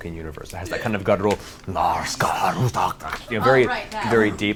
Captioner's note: speaking Black Speech